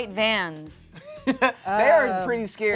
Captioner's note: laughs